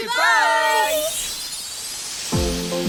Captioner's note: chimes and whooshes